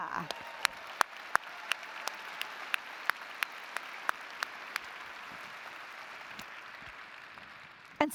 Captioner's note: applause & Cheering